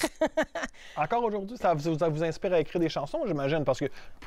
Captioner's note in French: rires